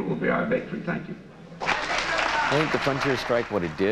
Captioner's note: applause